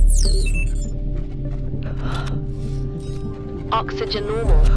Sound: automated ding

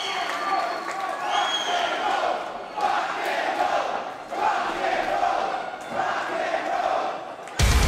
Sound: audience chants; rock music plays

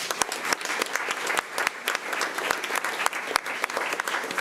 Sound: crowd clapping

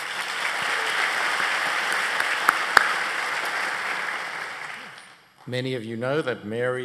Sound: applause

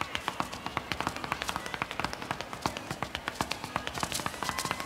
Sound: audience members calling out

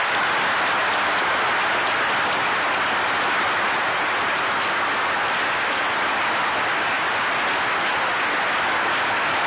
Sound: sustained applause

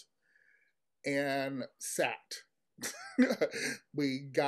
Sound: chuckles

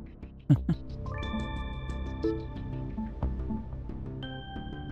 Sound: laughs

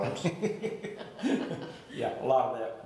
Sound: laughing

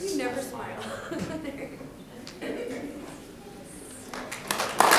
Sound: people laughing; laughing; audience clapping

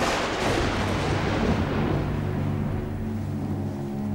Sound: loud thunder

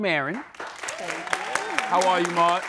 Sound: audience claps

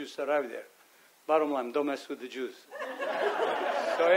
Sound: audience laughs

